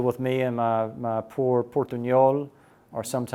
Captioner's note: speaks Portuguese